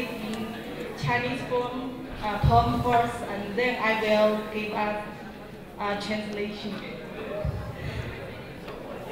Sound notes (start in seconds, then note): 1.7 crowd talking; 4.1 speaking in Mandarin